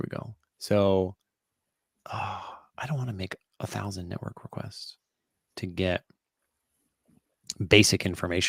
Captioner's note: sighs